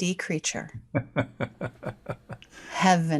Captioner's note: laughing